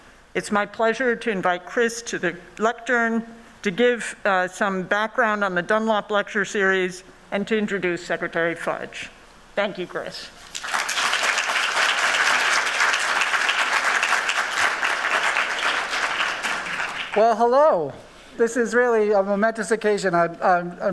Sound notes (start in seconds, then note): 10.4 applauding